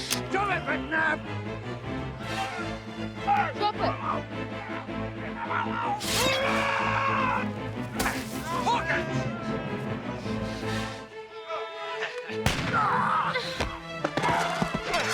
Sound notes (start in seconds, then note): 6.0 Savage yelling; 12.4 gun firing; 12.5 Jack yelping